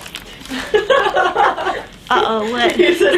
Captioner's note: women laughing off screen